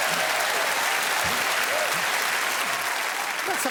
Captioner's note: cheering and applause